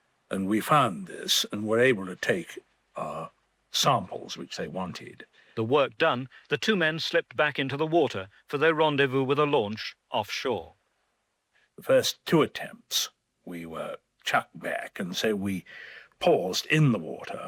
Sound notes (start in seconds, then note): 5.2 voiceover